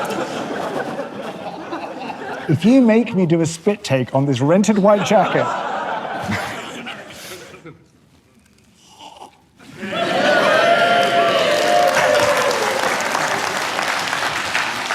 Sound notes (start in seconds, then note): 4.8 laughter; 8.1 slurps; 9.7 audience cheers & applauds